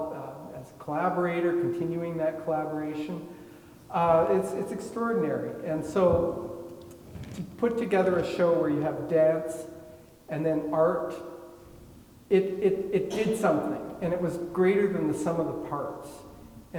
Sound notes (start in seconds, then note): 13.0 attendee coughing